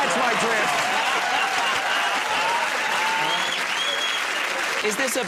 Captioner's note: laughter